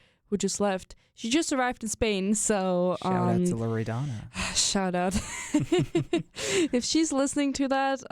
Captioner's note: both chuckle